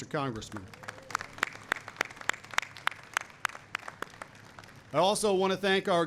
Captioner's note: applause